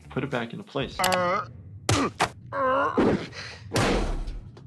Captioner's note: Peter groans